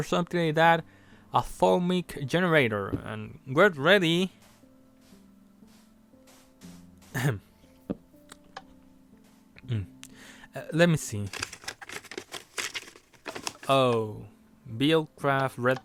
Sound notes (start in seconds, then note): 11.2 paper scramble